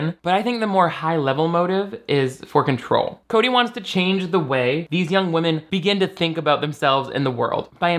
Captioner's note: none